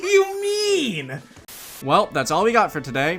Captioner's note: static